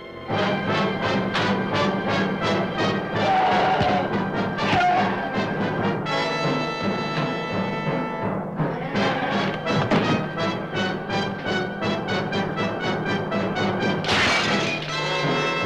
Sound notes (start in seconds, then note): 0.2 suspenseful music; 3.2 Lobo screaming